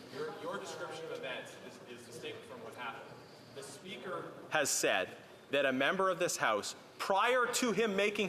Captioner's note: off mic